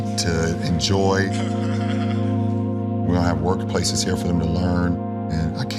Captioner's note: laugh